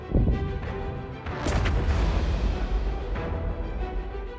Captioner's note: intense music; bombs exploding